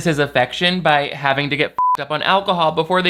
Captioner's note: beep